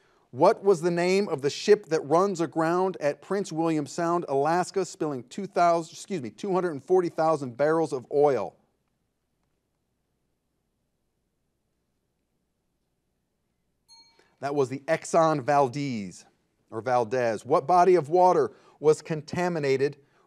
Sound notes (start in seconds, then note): 13.8 bell rings